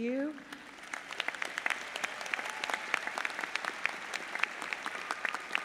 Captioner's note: audience applauds